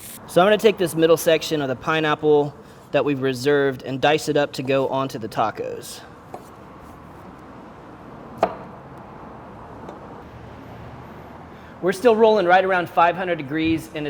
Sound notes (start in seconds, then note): 0.0 meat sizzles; 6.2 knife chops